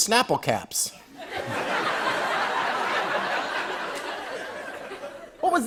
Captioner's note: laughter